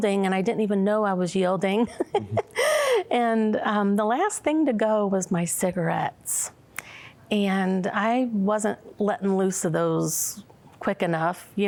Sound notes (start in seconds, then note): 1.8 giggling